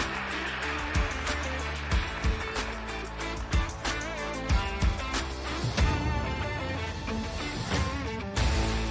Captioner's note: applause